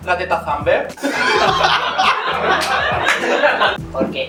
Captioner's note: laughs